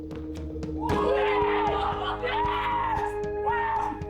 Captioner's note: cheering